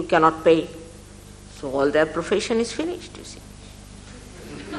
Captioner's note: laughter